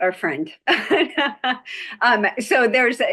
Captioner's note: laughing